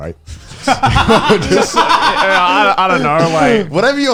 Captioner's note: laughing